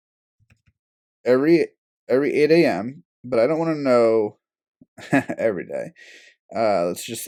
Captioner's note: laugh